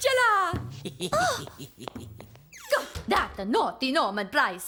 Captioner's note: snickers